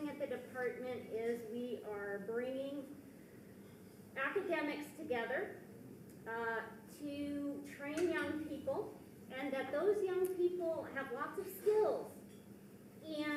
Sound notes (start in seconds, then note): none